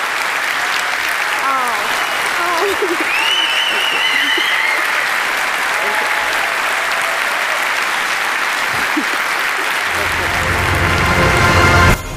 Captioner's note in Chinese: Applause; 掌聲; Applause; 掌聲